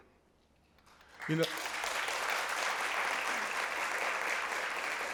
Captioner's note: applause